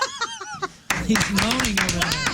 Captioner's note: laughing